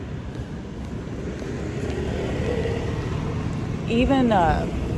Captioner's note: vehicles pass; wind gusts